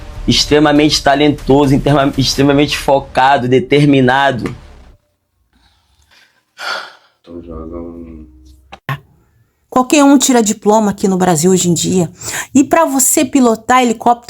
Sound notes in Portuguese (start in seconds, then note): 6.5 suspirando